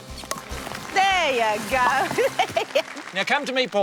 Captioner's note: laughs